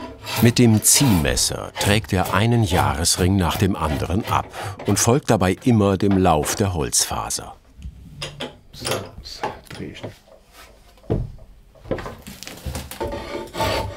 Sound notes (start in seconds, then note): 8.4 he speaks quietly